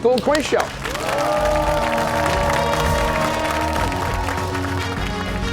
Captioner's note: cheers and applause